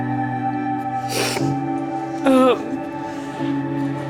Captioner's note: crying